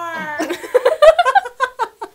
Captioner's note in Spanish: jajaj